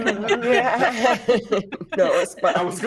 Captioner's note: everyone laughs